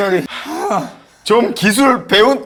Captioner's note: haha